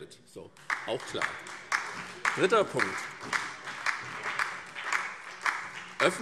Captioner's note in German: Beifall SPD und DIE LINKE